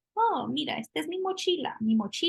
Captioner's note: spanish